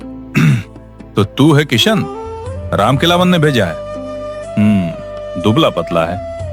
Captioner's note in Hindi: गला साफ़ करने की आवाज़